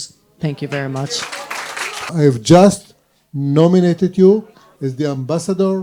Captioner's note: applause